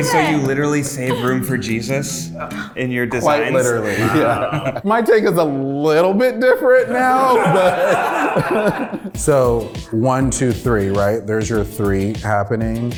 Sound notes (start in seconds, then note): 3.2 laughs; 6.6 group laughs